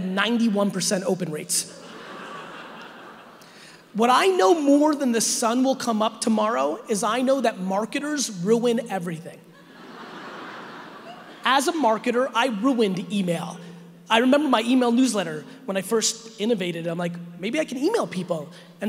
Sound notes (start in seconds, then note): 1.8 audience laughing; 9.6 audience laughing